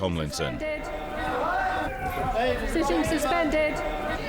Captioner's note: yelling